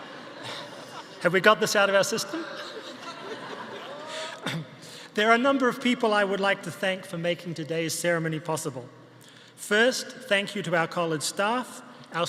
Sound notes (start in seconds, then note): 1.8 audience laughing continues